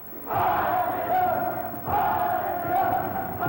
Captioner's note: shouting